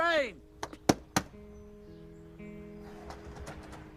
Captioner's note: door banging